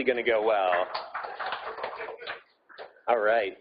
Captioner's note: audience applauding